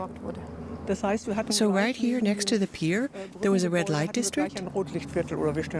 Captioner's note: in German